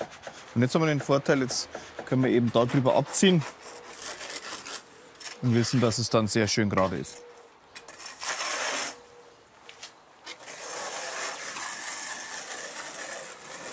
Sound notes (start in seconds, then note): 7.8 rough scraping noises